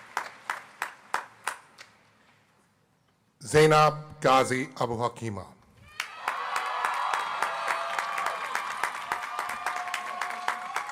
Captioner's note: applause